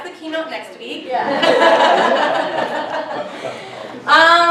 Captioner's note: laughter